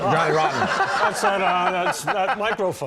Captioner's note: laughter